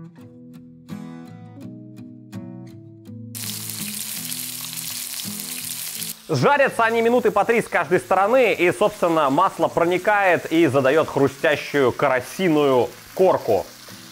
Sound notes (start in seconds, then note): 3.4 hissing